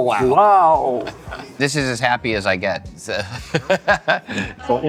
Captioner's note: laughs